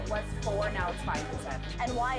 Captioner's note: servers and reporter talking